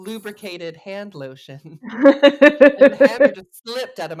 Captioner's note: laughs